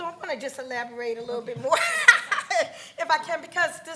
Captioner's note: laughs loudly